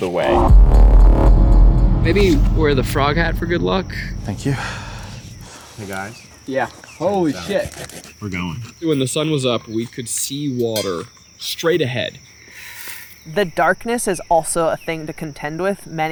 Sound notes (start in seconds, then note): 0.1 dramatic electronic music; 7.6 crickets chirping